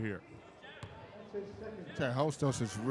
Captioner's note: ball pounding